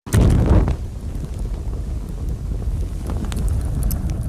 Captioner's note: fire crackling